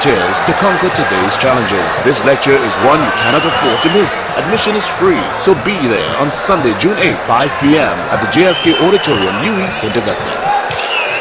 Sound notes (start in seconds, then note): 8.1 wild applause and cheering for 22 seconds